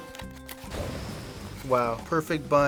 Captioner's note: explosion sound effect